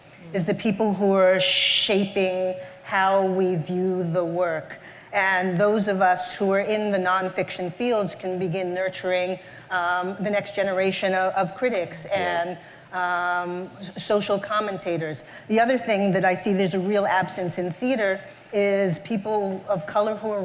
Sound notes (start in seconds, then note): none